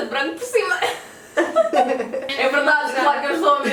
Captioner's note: laughs